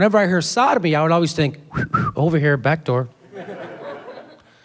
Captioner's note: whistles